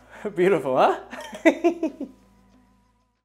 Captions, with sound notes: Beautiful, huh? [laughs]